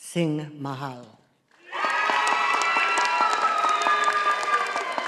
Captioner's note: audience applauding